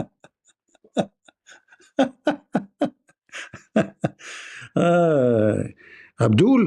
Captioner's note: Ketawa